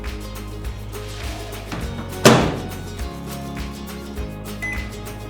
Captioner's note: shuts microwave door; microwave beeps